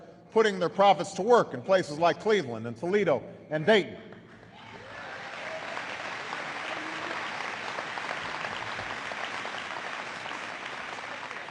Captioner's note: applause